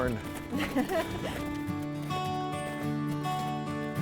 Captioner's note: laughing